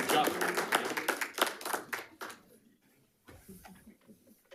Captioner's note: attendees clapping